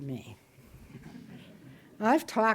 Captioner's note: audience chuckles